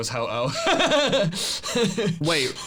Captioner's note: laughs